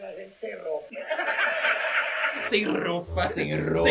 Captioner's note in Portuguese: risos